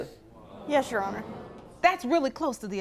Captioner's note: audience exclaiming